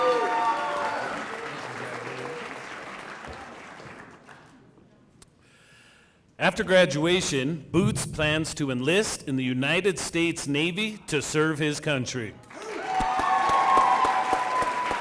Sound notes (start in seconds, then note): 9.7 applause